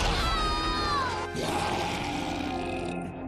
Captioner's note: screams; roars